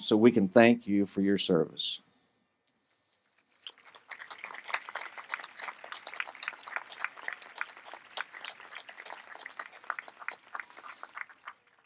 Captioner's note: applause